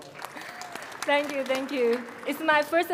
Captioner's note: crowd applauding